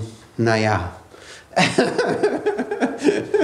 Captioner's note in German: lacht